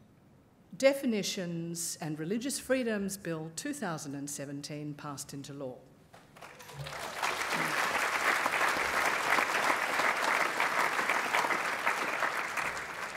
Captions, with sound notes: Definitions and Religious Freedoms Bill, 2017, passed into law. (applause)